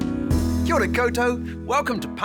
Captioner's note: speaking foreign language